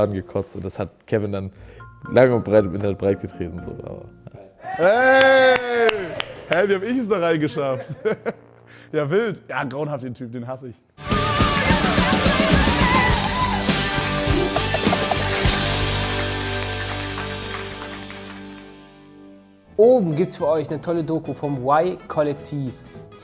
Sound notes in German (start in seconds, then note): 4.6 Jubel; 11.1 Rockige Musik; 15.8 Applaus